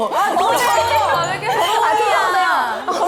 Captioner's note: commotion